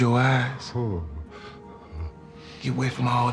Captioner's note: moans softly